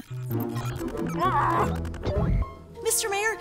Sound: error noise; Dr. Crumpet yells

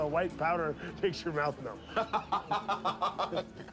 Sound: laughing

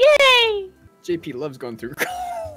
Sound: cuts off laughing

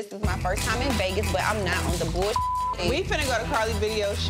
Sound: beep

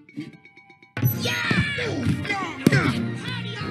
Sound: grunts & groans

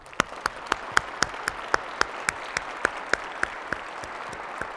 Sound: audience claps; claps

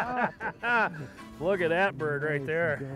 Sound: laughter

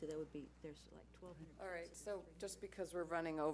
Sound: speaking faintly

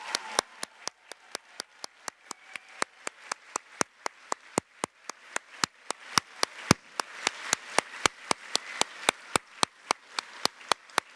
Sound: applause

